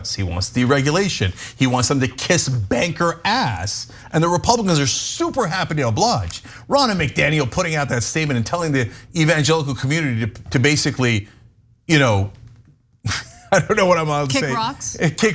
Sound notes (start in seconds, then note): 13.0 laugh